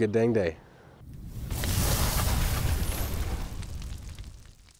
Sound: logo whooshing

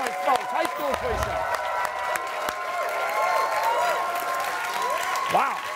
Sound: cheers and applause

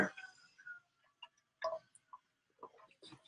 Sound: drinking

